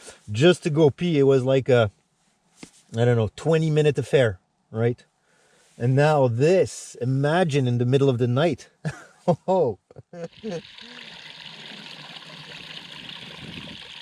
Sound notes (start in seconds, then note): 8.8 giggles; 10.2 water lashing